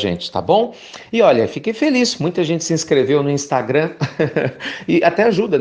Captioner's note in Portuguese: risos